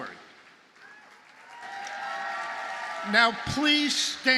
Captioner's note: audience cheers and applauds